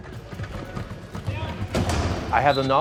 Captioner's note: crash